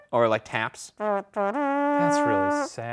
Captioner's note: imitates kazoo